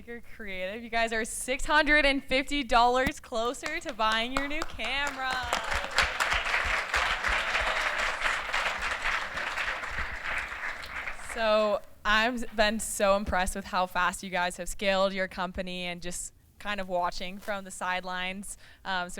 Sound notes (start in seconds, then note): 9.1 applause